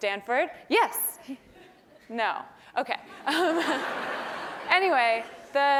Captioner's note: laugh